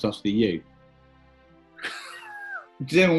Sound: sniggering

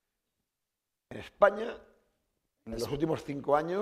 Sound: speaking spanish

